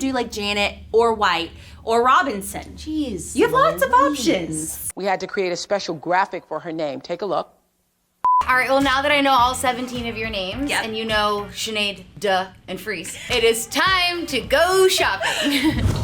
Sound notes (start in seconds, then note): 8.2 beep